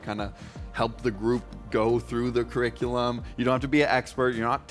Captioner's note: none